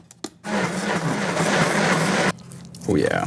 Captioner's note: blender whirring